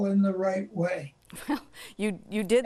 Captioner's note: chuckles